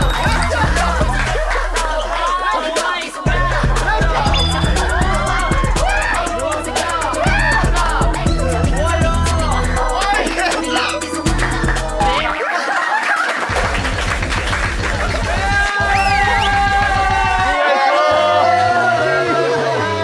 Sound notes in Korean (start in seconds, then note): 16.0 기립 박수